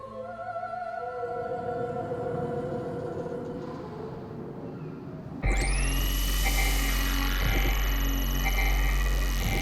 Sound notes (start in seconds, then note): 1.6 wind blows; 5.4 distorted music